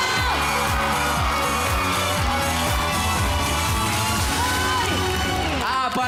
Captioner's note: whooping, applause